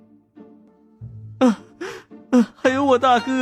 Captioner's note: sobbing